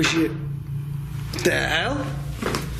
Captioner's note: loud tapping